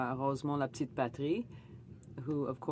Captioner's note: speaking French